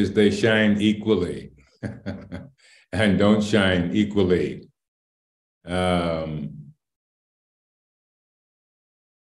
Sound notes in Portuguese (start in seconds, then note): 1.8 Risos